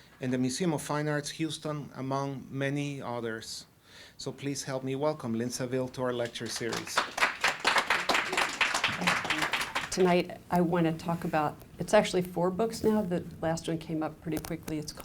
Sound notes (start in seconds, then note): 6.2 applause